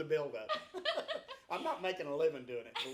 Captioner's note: laughs